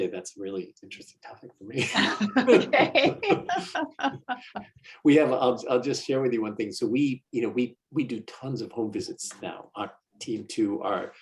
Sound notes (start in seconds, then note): 1.7 laughter